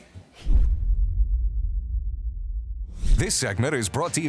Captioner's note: logo thuds